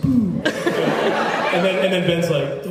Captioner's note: laughs